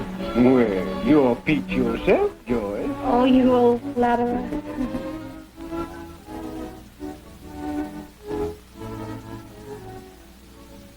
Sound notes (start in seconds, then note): 4.7 Col. Gordon chuckles